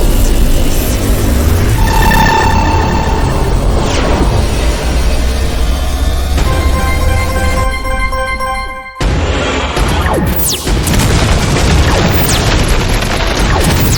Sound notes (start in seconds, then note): 6.3 chime ringing; 6.5 explosions booming